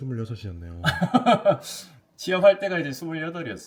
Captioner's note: chuckles